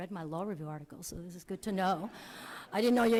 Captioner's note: audience laughs